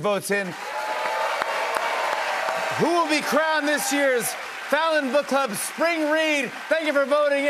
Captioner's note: cheers and applause